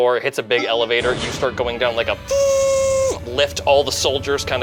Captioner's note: lift whirs